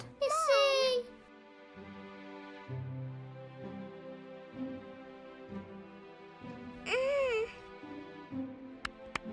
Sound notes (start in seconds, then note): 6.6 moaning; 8.8 clapping